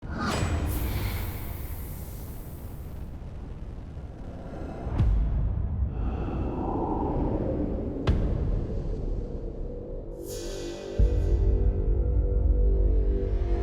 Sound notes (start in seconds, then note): 2.1 fire crackles; 3.6 building ambient music